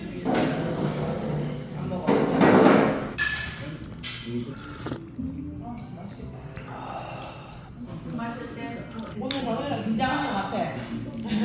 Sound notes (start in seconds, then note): 4.4 slurps